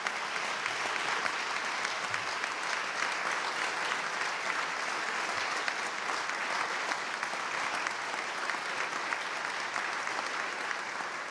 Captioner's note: applause